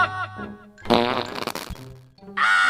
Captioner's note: farts into the megaphone